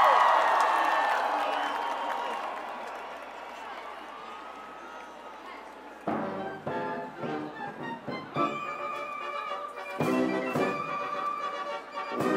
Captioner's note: cheers and applause